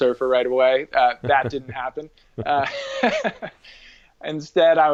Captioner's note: laughs